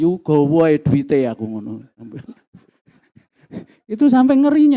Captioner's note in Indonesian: terengah-engah